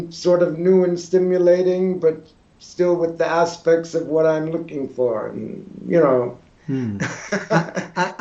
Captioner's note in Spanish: Risas